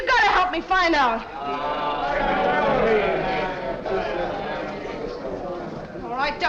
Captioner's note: crowd moans